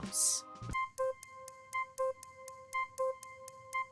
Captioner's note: timer ticking